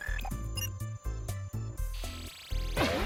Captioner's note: beeps